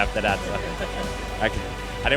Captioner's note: laughs